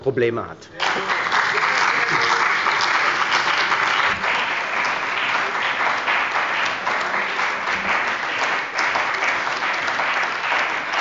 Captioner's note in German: Beifall bei der CDU und dem BÜNDNIS 90/DIE GRÜNEN